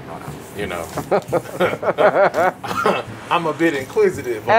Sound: laughs

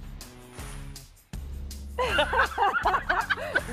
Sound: both laugh

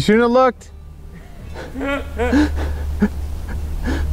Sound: laughing

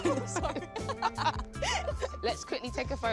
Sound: both Laughing

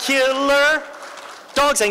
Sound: applause

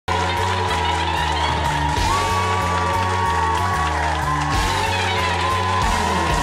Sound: upbeat music playing; audience applauding

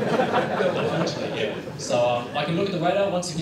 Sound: laughter

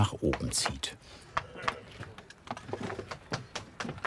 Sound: knocking stones

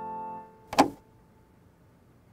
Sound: door opens

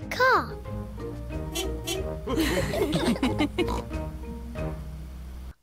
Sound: horn honks and they all laugh

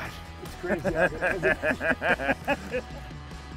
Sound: the guys laugh

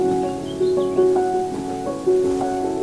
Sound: birds tweet

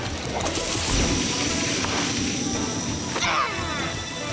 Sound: boosters whooshing; triumphant shout

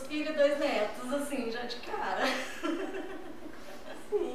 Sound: laughs

